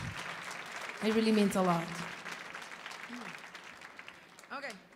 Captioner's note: audience applauding